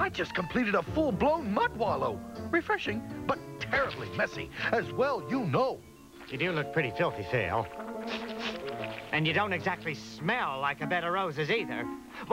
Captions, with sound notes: I JUST COMPLETED A FULL-BLOWN MUD WALLOW. REFRESHING, BUT TERRIBLY MESSY, AS WELL YOU KNOW. YOU DO LOOK PRETTY FILTHY. [SNIFF SNIFF] YOU DON'T SMELL LIKE A BED OF ROSES, EITHER.